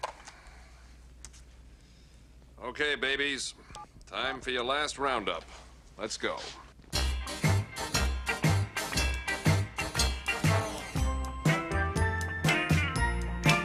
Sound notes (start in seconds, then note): none